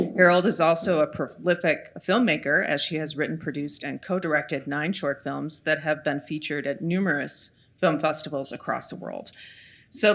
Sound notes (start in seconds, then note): none